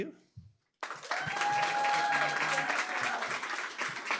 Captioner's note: cheering, applause